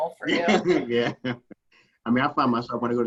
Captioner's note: laughing